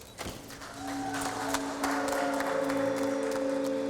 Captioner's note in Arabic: هتاف